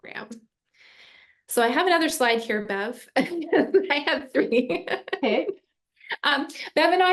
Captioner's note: chuckling